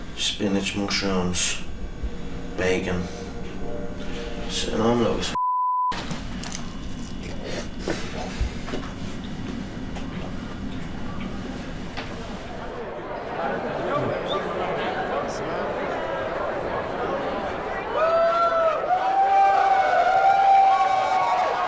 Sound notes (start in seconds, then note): 13.0 crowd chatter; 18.2 crowd cheering